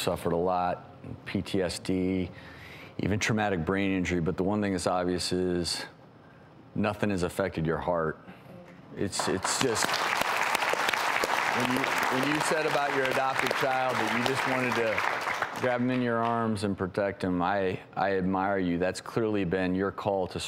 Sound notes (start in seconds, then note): 9.1 audience clapping